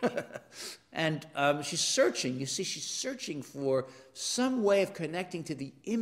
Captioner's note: laugh